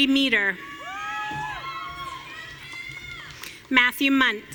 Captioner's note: audience cheering